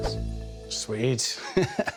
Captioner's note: laughs